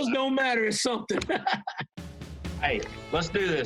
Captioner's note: laughter